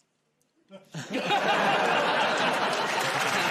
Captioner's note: laughter; cheers and applause